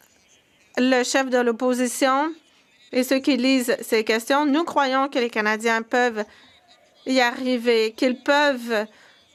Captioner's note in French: voix de l'interprète